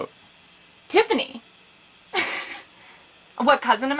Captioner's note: Izzy laughs incredulously